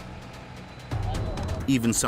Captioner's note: crane whirring; intriguing music